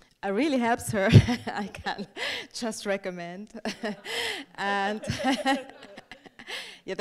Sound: laughing

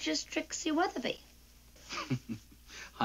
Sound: laughs

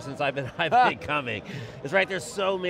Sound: laughs

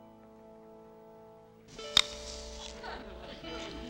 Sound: crunching apple

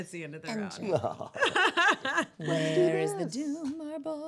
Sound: laughing

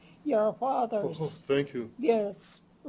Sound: non-english

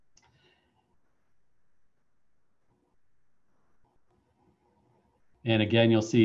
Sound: silence

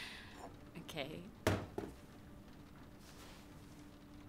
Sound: bowl thumps

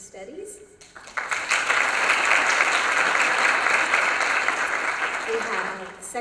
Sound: applause

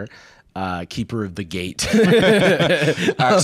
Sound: laughs

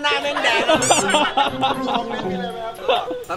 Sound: laughs

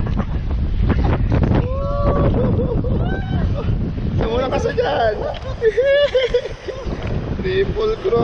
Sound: laughs!!!!!

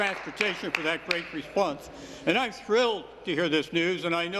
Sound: applause

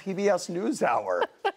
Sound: laughter

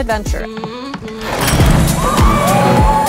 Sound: footsteps on boat; boat motor revs; girls cheer

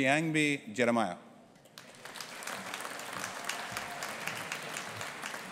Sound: audience applauding

